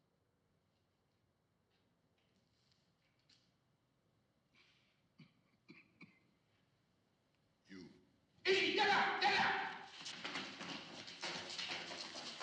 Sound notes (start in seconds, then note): 5.2 coughs; 8.3 man shouts in turkish